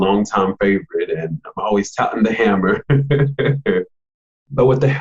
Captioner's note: laughs